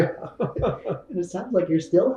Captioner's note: laughs